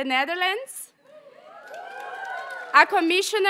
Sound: audience members cheer and applaud

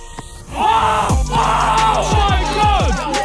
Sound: players shout

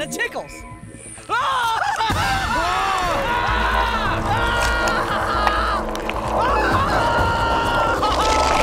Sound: screaming

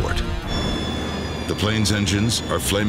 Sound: engine whirring

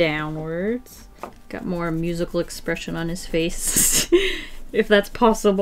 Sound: laughs

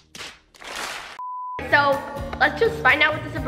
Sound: beeping

